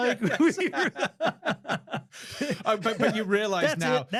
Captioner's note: laughing